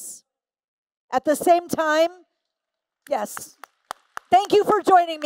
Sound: applause

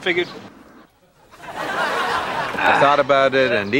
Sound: audience laughs

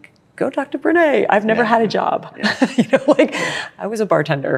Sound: laughs

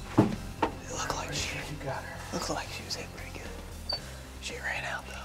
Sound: whispering

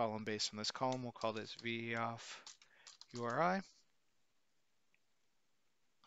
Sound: keyboard clicking

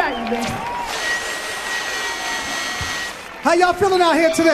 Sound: audience cheering

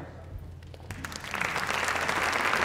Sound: applause

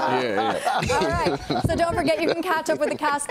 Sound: laughter

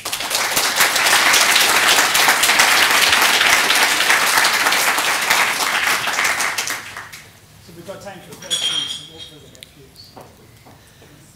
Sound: applause

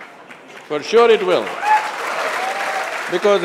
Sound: laughter/Applause

